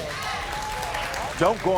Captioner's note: audience cheering